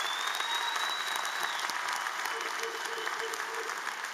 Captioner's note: applause